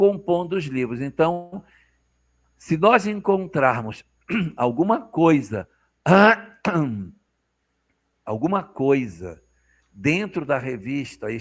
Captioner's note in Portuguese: limpando a garganta